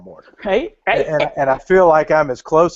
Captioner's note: laughs